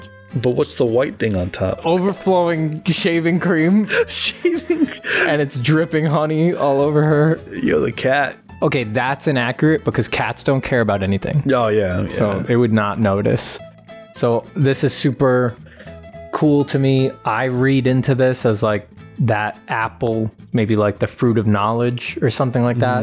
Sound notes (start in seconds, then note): 3.8 chuckles; 3.9 laughter